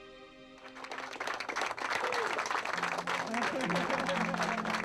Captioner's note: navigators clapping